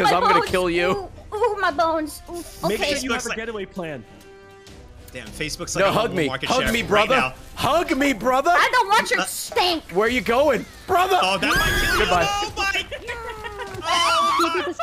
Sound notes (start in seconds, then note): 13.8 screams